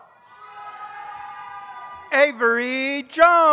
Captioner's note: audience cheers